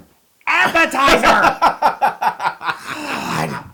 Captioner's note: laugh